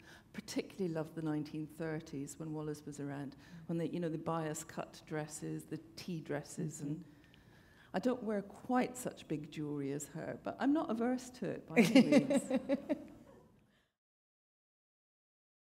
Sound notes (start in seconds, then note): 11.8 laughter